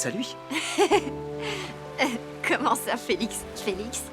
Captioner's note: laughing